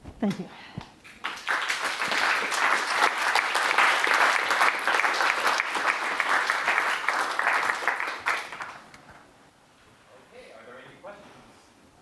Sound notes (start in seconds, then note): 1.0 applause